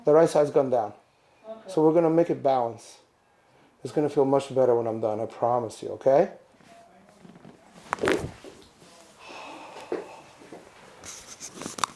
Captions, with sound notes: the right side has gone down. So we're gonna make it balance. It's gonna feel much better when I'm done. I promise you, okay? (spine cracks)